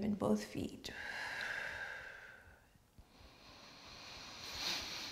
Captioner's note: exhales and inhales deeply